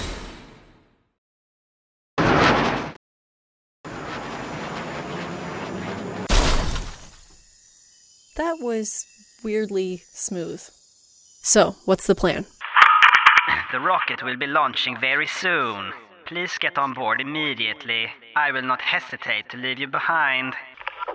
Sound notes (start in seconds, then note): 12.6 Toppat intercom crackles; 13.8 over intercom